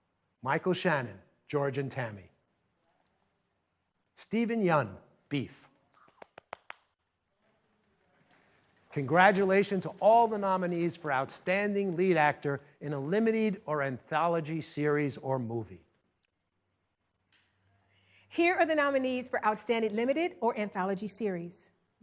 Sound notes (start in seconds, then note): 6.0 claps